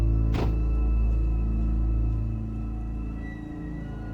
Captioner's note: truck door bangs; soft eerie music